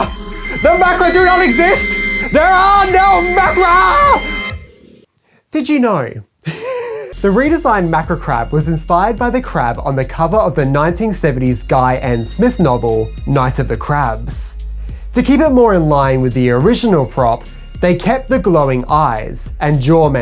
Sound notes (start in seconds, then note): 6.4 laughs